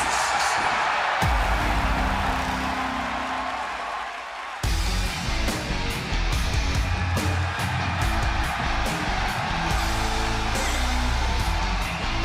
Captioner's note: cheers and applause